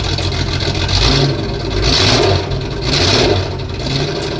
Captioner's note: sound of the Exhaust